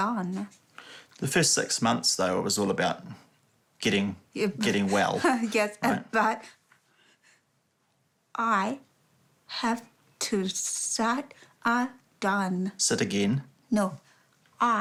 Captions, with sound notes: The first six months, though — it was all about getting well, right? Yeah. (CHUCKLES) Yes, but... I have to start again. Sit again? No.